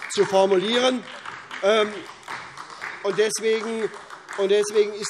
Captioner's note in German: Beifall SPD und DIE LINKE